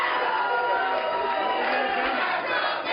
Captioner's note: crowd chanting